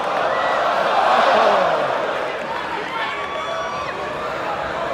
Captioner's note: crowd groans